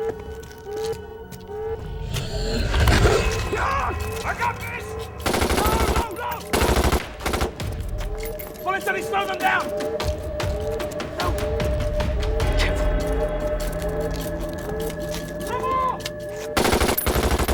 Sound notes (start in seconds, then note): 1.7 vampire growls; 5.2 gunshots blasting; 16.6 gunshots blasting